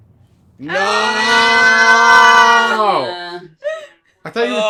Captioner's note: jeers and groans